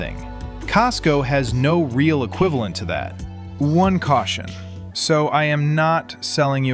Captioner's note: thoughtful